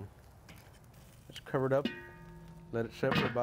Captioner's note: metal thudding